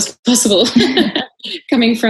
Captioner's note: laughs